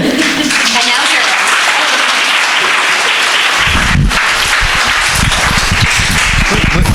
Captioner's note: crowd applauding